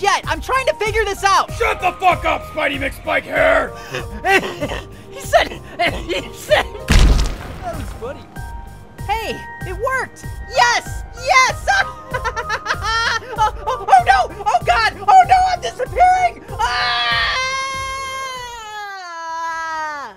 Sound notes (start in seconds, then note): 3.5 still wheezing, goddamn; 11.6 victorious laugh; 16.6 screams